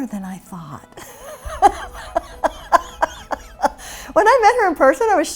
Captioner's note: laughs